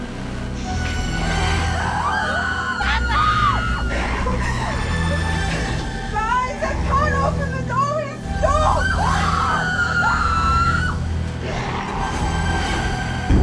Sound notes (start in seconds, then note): 1.4 all screaming; 8.4 all screaming